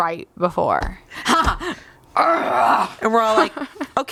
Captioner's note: grunts